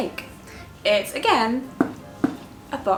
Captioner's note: knock knock